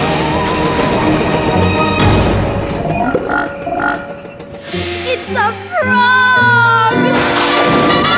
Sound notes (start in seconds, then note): 2.6 croaking